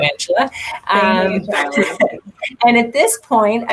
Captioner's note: mumbling